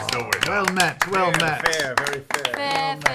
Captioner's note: applause